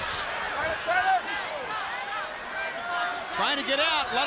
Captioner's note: crowd chatter